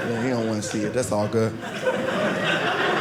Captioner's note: audience laughing